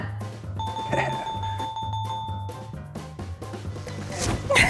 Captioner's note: bell dings